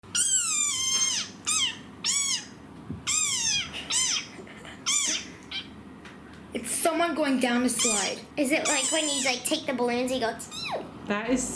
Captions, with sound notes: (squeaking) - It's someone going down a slide. (squeaking) - Is it like when you take the balloons and you go (squeaks)